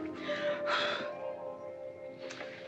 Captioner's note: blowing